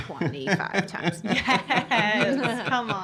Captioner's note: chuckling